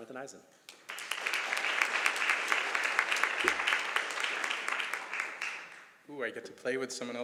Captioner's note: applause